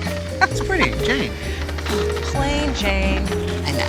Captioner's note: chuckles